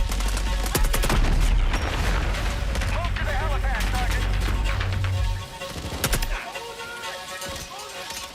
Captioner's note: gunshots